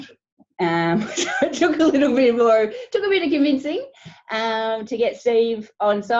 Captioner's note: laughing